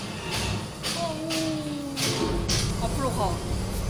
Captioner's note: shivering